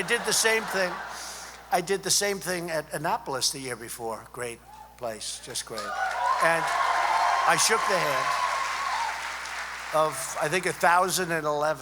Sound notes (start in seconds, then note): 5.7 applause